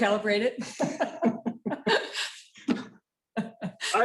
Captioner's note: laughter